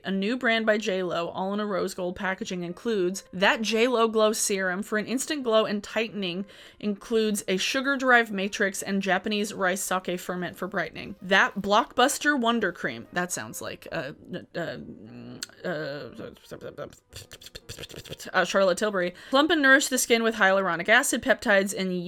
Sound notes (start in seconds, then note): 14.8 stammers